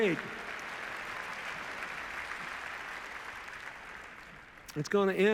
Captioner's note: cheers, applause